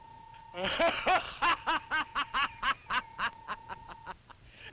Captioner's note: Krupp laughing